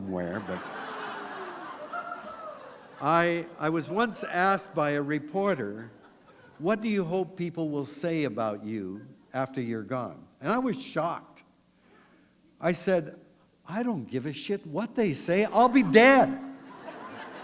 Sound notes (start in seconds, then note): 0.4 laughter